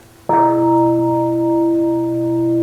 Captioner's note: bell